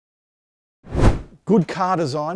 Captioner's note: air whooshing